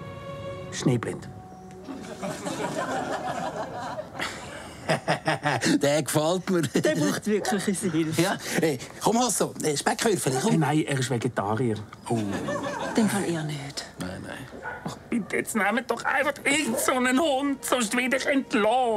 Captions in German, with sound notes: Schneeblind. (Lachend) Der gefällt mir! - Der braucht unsere Hilfe. Komm, Hasso! Speckwürfel, komm! - Nein, er ist Vegetarier. Uh ... Nein. - Dann eher nicht. Bitte, nehmt doch einfach irgendeinen Hund! Sonst werde ich entlassen!